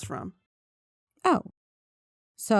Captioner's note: music stops